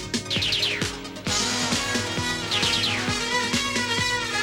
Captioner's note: lasers firing